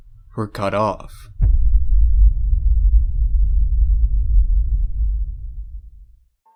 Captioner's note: bass rumble, fade